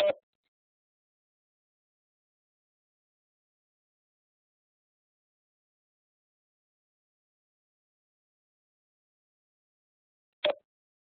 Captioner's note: silence